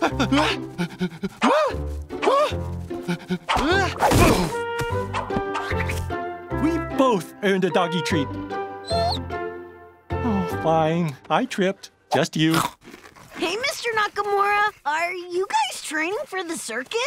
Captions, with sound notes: Oh! We both earned a doggy treat. [whimpering] Oh, fine, I tripped. Just you. Hey, Mr. Nakamura! Are you guys training for the circus?